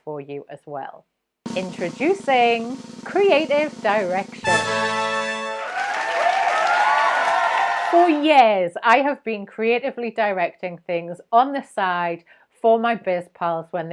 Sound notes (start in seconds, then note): 3.4 crowd cheering; 4.7 horns blaring